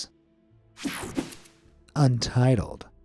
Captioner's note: screen whooshing